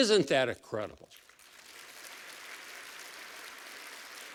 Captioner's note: applause